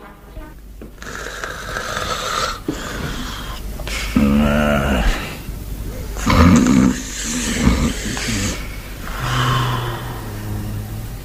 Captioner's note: snoring